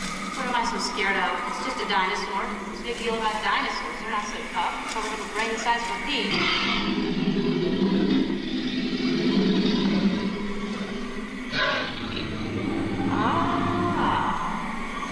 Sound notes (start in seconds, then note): 6.2 dinosaur roars